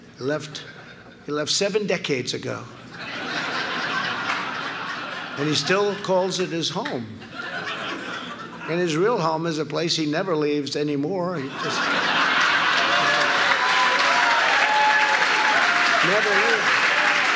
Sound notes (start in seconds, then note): 2.8 laughter; 11.4 laughter and applause